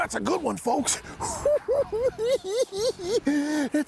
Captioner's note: cackling